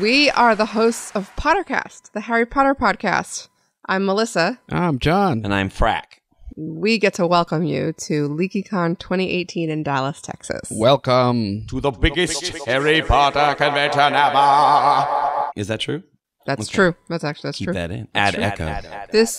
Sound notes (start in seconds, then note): 12.0 echoing; 18.3 echoing